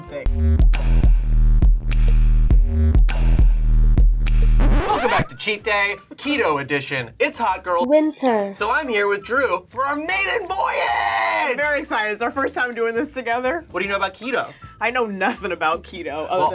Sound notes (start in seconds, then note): 0.2 heavy bass beat; 4.6 record scratches